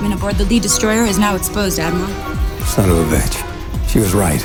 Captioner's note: movie dialogue plays